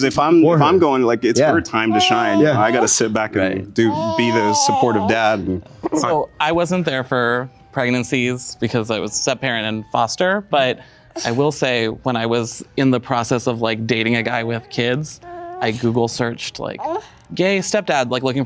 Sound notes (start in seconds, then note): 1.8 baby cooing